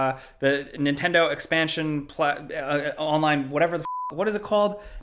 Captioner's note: stutters